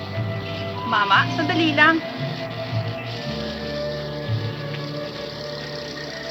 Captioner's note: speaking in foreign language